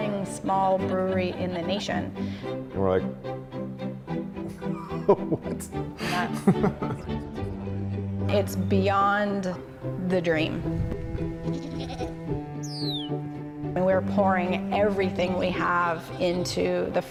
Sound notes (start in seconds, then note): 4.5 laughs; 11.5 sound of goat's bleat and bird's chirp